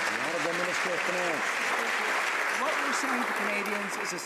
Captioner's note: some Applause